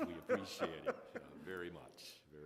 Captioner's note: laughing